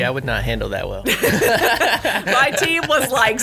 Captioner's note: laughing